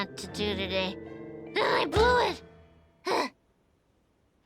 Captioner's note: grunts